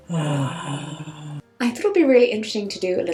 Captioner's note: sighs